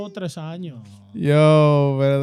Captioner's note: laughing